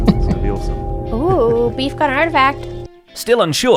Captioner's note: dramatic noise